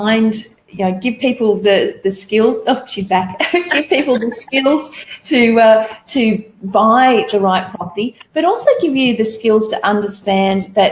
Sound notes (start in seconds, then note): 3.2 laughing